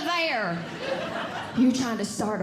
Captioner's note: audience Laughing